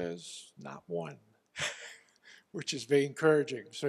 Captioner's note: laugh